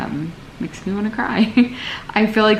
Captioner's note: laughs